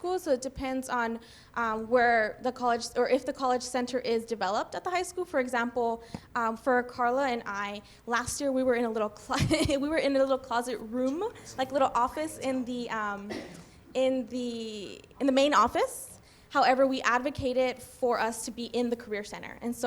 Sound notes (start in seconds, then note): 9.5 laughs